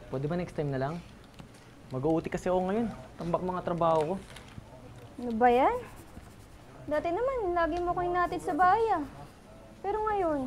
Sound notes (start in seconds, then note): none